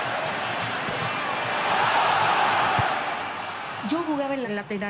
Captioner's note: crowd roars